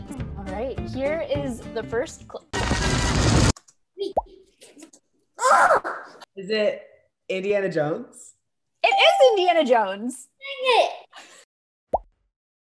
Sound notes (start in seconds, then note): 2.5 thrilling music; 8.8 ding